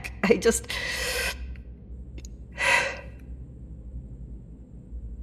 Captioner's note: deep breath